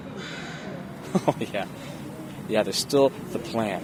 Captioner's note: laugh